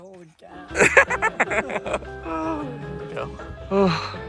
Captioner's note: laughter